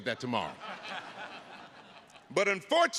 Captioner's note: attendees laughing